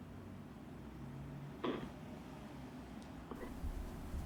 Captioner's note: blows a raspberry